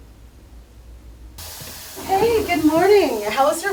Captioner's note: water running